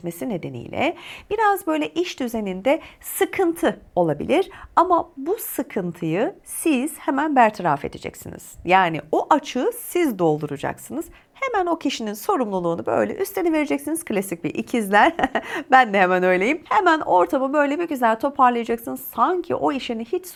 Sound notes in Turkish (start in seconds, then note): 15.0 kahkaha